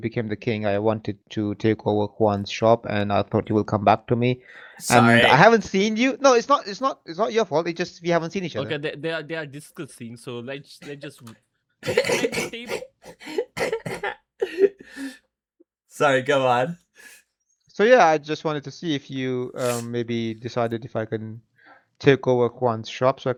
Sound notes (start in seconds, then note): 11.8 clears throat; 13.3 laughter